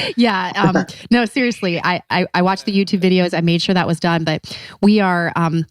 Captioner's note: laughs